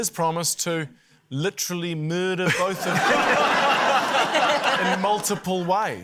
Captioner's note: laughter